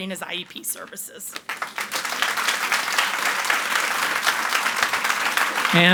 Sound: audience applauds

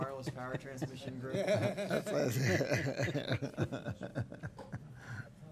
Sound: chuckling

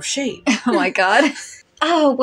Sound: chuckle; chortle

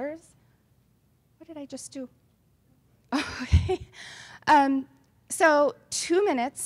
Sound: laughs

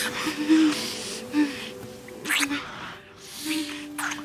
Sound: passionate kissing

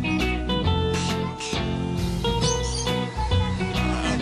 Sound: birds squawk

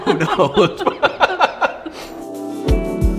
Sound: laughing

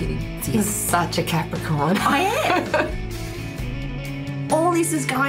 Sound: laughs

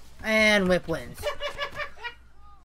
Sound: cackling laughter

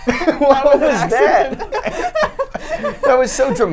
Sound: laughs

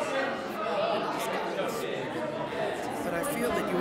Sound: background chatter

